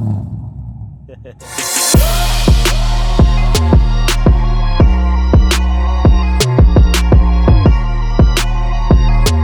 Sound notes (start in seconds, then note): 1.1 laughing; 1.4 bass thumping beat